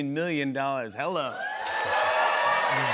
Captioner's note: cheers and applause